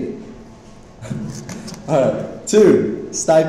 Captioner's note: laughs